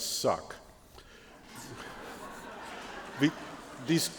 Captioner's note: laughter